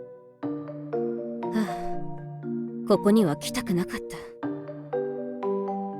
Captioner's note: sigh